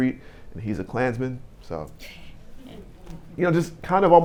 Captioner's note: audience murmuring